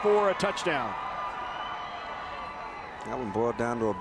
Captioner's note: spectators cheering